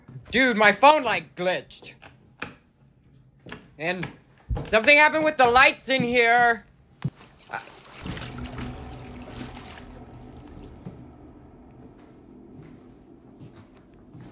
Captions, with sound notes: Dude, my phone like glitched. (switch clicking) And something happened with the lights in here. (water splashing) (ominous music)